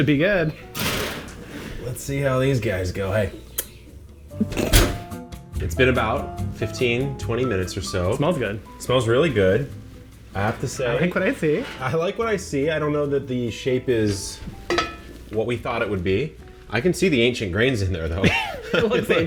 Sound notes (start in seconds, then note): 0.6 metal clanging; 3.5 blowing kiss; 18.2 laughing